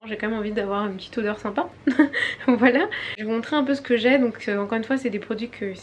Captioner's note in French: rires